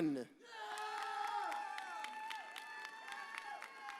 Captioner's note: audience cheers